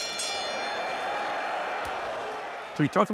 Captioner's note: bell ringing; crowd cheering